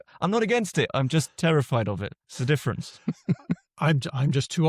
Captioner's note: laughs